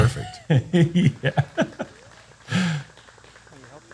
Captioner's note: laughs